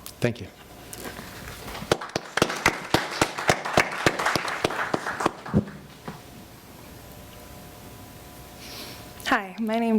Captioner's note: applause